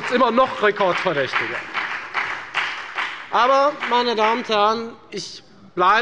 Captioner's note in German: Beifall bei der FDP